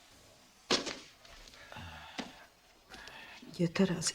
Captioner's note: sighs